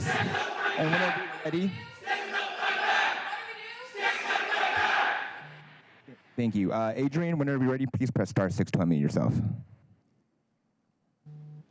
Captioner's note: crowd chanting